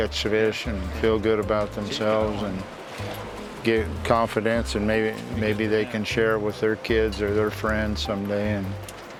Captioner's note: none